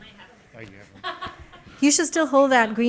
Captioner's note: laughs